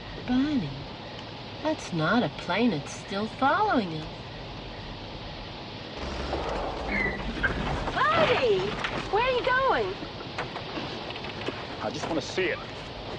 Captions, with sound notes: - Barney, that's not a plane. It's still following us. (tires squeak) Barney! Where are you going? - I just wanna see it.